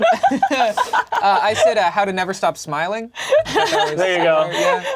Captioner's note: laughs; murmurs